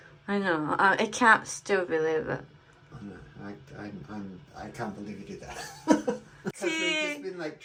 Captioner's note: laughs